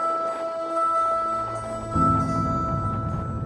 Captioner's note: footsteps crunching in snow